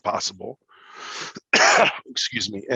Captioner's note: coughs